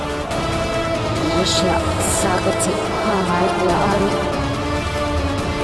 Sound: chanting spell

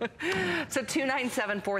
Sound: laughter

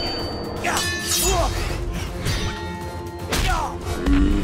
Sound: grunting

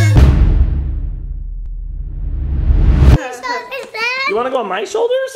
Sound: thud; air whooshing

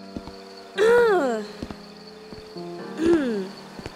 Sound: somber music; grunting

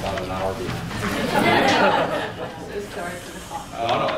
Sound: laughter

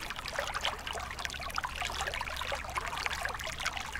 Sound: water splashing

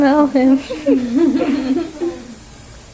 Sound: laughs

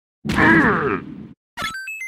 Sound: Thwomp noise

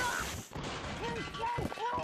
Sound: clanging

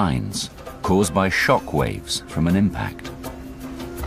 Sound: waves

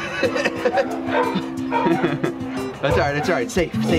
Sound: laughing

